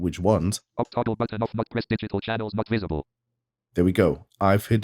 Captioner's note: automated voice